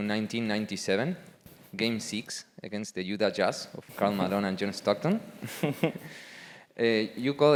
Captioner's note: laugh